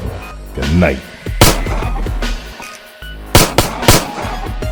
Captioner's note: gun shoots; gun shoots